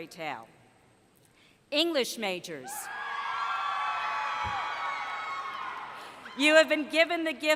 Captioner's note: cheering